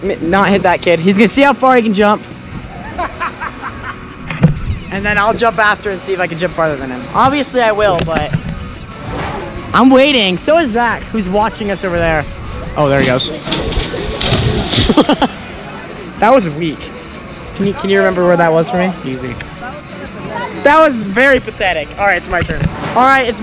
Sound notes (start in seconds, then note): 13.8 laughing; 13.8 water splashing